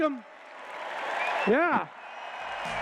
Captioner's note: cheers